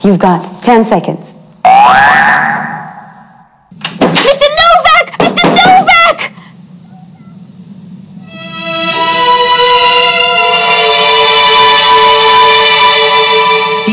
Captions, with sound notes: You've got 10 seconds. (alarm rings) - Mr. Novak, Mr. Novak. (dramatic music)